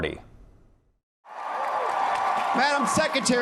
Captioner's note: cheering